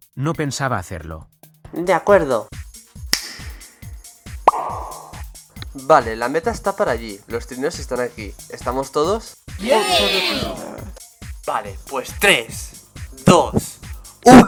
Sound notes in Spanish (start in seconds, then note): 3.1 chasquido; 4.4 pop